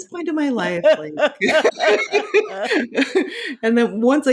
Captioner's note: both laughing